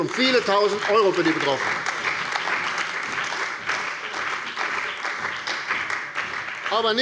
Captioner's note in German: Beifall bei der CDU und dem BÜNDNIS 90/DIE GRÜNEN